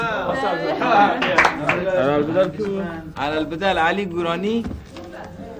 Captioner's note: people applauding; speaking foreign language